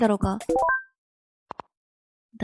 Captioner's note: message notification sound